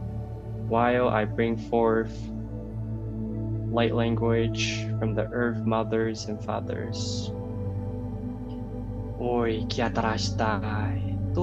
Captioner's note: light language